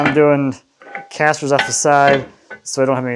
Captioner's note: laughs